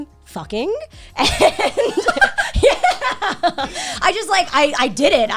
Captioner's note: guys laughing